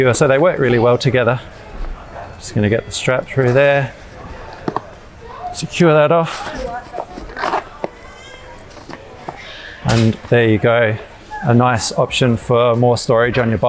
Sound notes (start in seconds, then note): 8.0 child crying